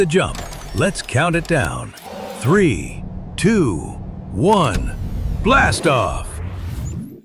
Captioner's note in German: Zischen